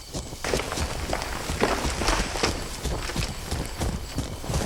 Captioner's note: brush rustling